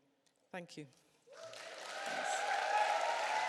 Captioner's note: cheers and applause